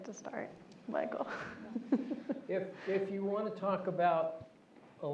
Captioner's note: laugh